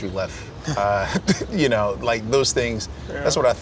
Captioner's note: laughter